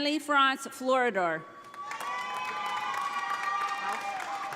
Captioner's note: audience applauding